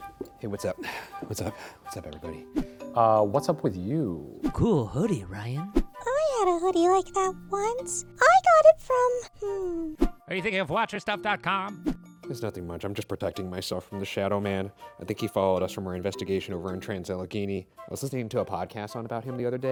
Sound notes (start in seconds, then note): 0.0 light electronic music; 5.2 air whooshing; 11.5 air whooshing